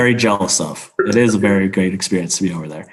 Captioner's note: laughs